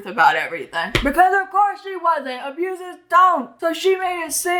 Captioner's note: slaps hand on desk